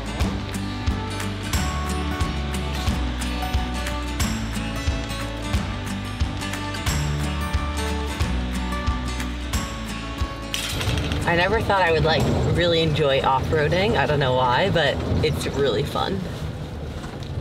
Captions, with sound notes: (waterfall roaring) I never thought I would, like, really enjoy off-roading, I dunno why, but it's really fun.